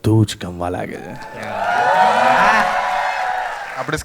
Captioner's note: crowd applauding